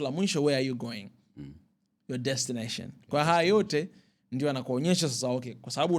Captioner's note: clearing throat